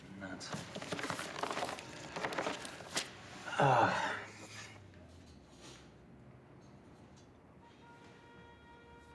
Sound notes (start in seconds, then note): 3.4 sighs in exasperation